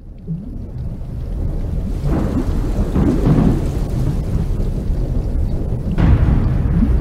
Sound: thunder and rain

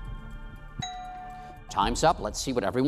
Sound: bell dings

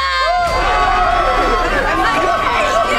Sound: screaming and commotion

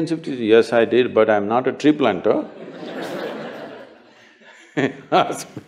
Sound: laughter

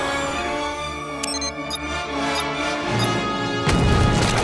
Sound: beeping

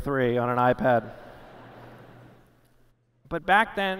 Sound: laughter

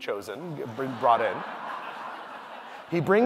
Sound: audience laughing

